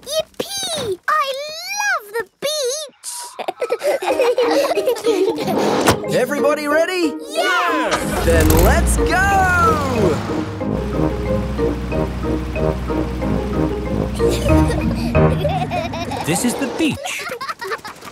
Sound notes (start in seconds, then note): 3.0 all laughing; 14.1 children giggling